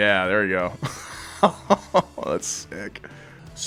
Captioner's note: laughing